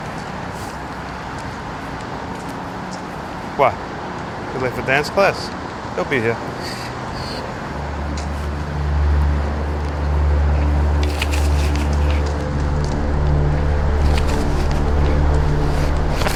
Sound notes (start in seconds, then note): 7.6 suspenseful music; 7.8 object rustling